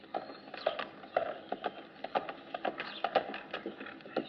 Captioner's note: horse galloping